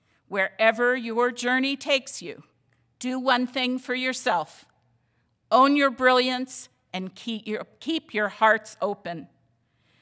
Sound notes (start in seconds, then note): none